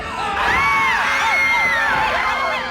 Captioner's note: screaming